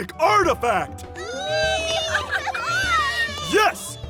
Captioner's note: excited child noises